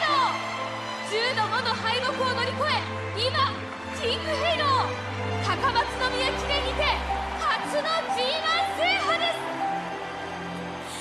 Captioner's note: great cheering